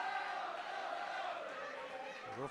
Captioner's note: fans chanting